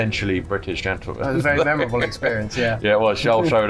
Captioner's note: laughs